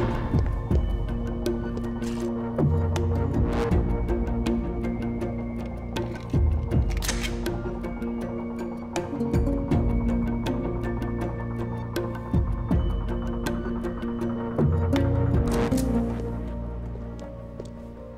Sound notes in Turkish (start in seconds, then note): 0.2 Müzik - Gerilim; 6.6 Şarjör takma sesi